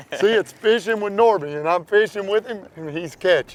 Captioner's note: laughter